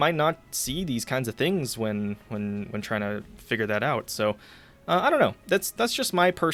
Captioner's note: stuttering; stutters